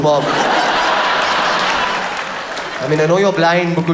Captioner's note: audience laughs